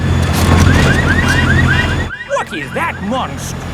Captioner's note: car alarms blaring